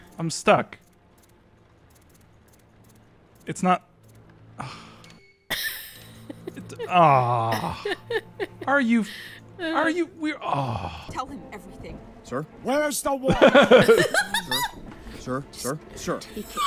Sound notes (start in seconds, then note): 4.6 sighs; 5.5 laughs